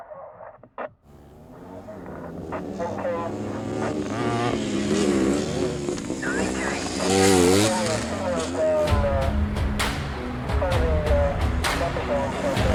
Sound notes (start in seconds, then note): 3.6 engine humming; 8.8 dramatic music